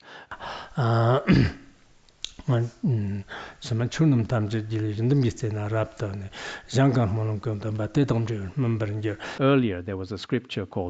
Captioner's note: citing scripture in Tibetan